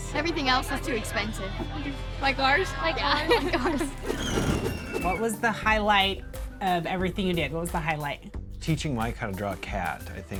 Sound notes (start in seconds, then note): 3.8 wheel screeches; 4.0 wind whooshes